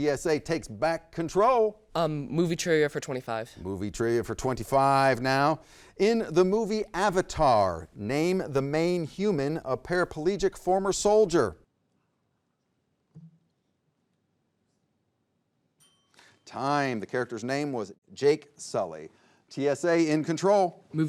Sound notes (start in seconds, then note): 15.8 bell dings